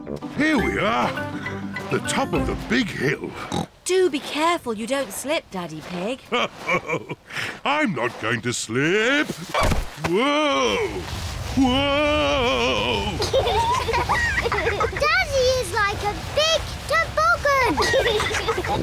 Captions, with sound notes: Here we are. -The top of the big hill. -(SNORTS) Do be careful you don't slip, Daddy Pig. (CHUCKLES) I'm not going to slip... Whoa! Whoa! -(BOTH GIGGLE) -Daddy is like a big toboggan!